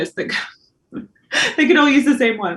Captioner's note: Karen laughs